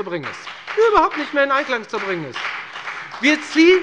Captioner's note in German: Beifall bei der FDP